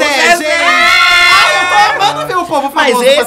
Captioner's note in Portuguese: gritos